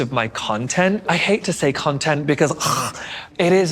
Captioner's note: chokes